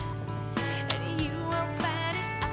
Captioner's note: kissing sound